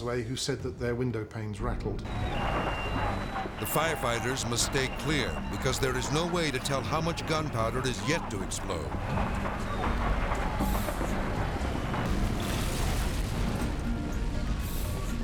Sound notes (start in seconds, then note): 2.3 alarm beeping; 9.0 explosions popping; 11.9 explosions roaring